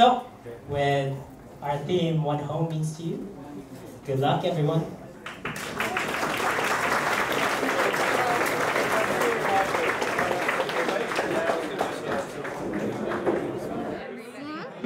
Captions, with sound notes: < So, with our theme, "What Home Means to You". Good luck everyone! [Applause]